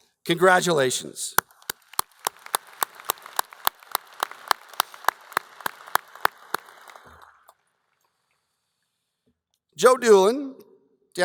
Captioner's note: applause